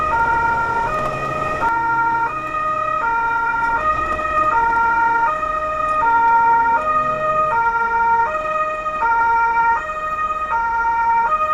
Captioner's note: crossing traffic